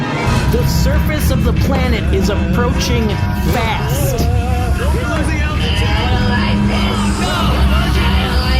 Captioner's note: terrified; screams; slurring